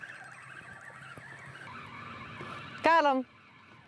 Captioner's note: line whirring